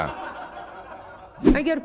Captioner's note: laughter